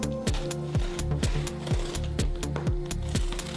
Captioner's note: cutting tape